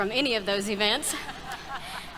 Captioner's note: brief laughter